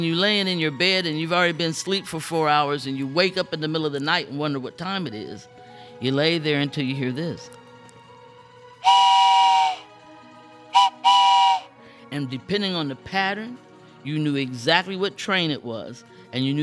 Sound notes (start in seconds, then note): 9.1 blows train whistle